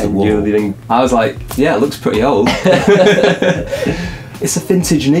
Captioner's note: laugh